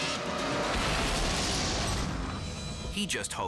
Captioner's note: crashing